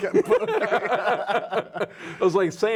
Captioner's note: laughing